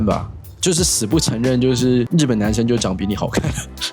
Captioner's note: laughs